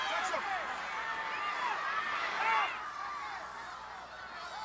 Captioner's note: audience shouting